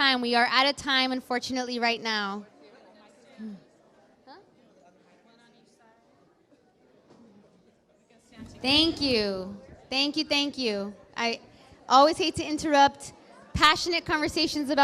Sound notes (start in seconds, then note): 3.6 indistinct conversation